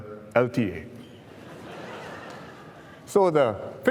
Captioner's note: laughter